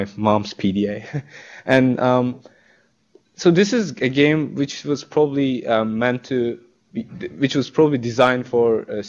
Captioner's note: chuckles